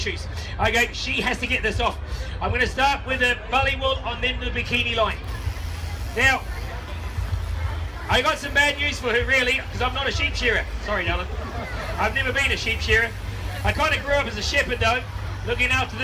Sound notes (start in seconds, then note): 5.7 starts electric razor; 9.5 crowd laughs